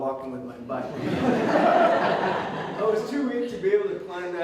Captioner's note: audience Laughter